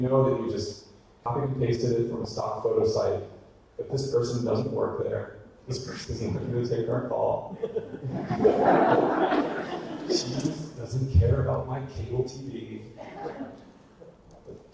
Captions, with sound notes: We know that you just copied and pasted it from a photo site, that this person doesn't work there, this person isn't going to take our call, (audience laughter) she doesn't care about my cable TV,